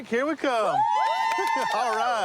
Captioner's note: cheering